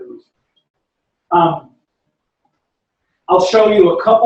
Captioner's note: pause